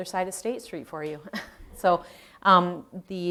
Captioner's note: chuckles